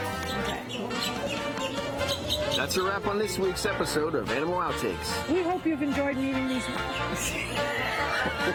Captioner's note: laughing